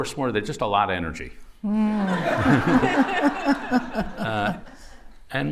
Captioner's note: laughter